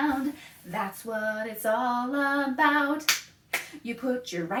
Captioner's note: clap, clap